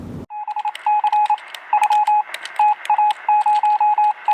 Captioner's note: morse code beeping